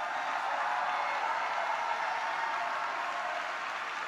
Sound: congregation applauds

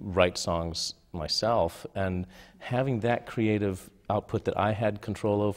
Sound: none

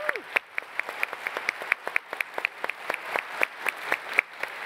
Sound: applause

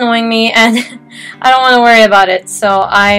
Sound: hopeless sigh

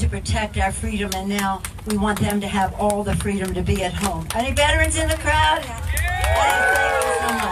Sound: audience cheers

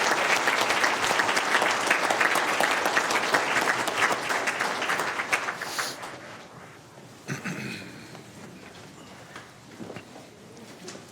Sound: applause

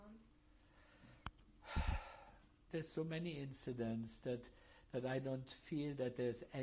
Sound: sighs

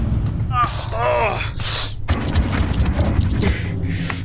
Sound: Papi grunts

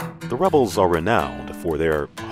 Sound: sultry country music; voiceover

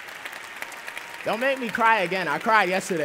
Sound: applause

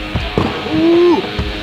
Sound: rock music; splash

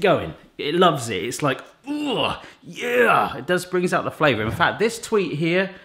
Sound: groans

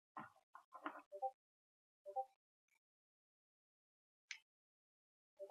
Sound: computer beeps

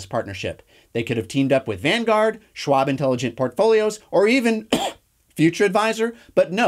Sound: cough

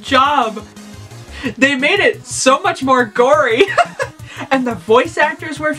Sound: laughs

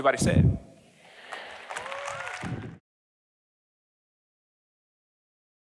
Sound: applauding

